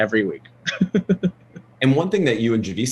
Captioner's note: laughs